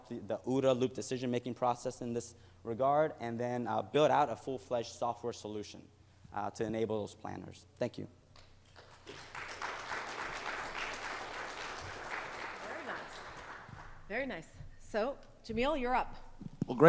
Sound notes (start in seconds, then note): 8.6 audience clapping